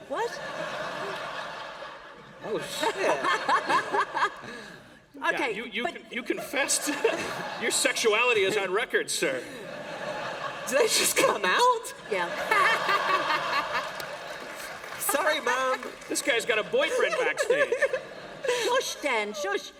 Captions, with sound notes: >> What [laughter]? >> Oh shit [laughter]. >> Okay. >> Yeah, you confessed. Your sexuality is on record, sir. >> Did that just come out? >> Yeah [laughter]. >> Sorry, mum. >> This guy's got a boyfriend backstage. >> Shush, Dan, shush.